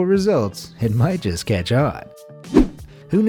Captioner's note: air whooshing